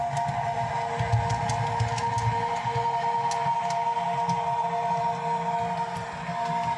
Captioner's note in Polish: Aplauz